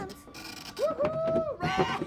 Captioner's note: whooping